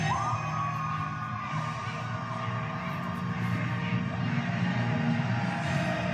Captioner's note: crowd cheering and chanting, Marry me, marry me